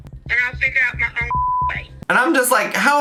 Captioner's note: beep